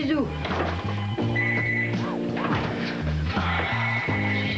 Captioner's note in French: Téléphone